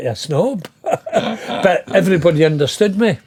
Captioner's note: laughing